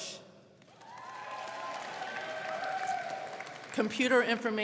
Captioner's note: crowd cheering